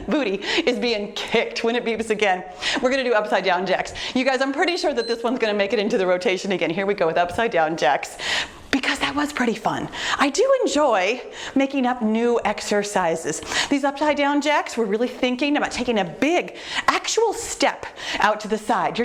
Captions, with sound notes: Booty, is being kicked when it beeps again. We're gonna do upside down jacks. You guys, I'm pretty sure (timer beeps) that this one's gonna make it into the rotation again. Here we go with upside down jacks, because that was pretty fun. I do enjoy making up new exercises. These upside down jacks, we're really thinking about taking a big actual step out to the side.